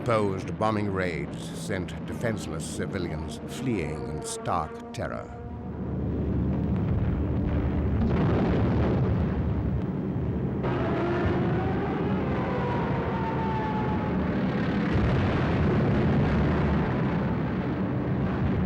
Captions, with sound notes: Unopposed bombing raids sent defenseless civilians fleeing in stark terror. (bombs exploding) (siren wailing) (planes buzzing)